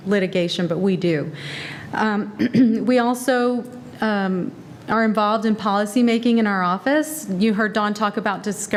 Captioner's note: cough